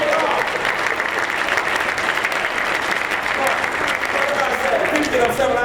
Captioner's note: applause